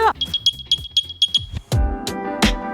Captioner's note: Airpods chime